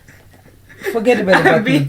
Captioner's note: laughing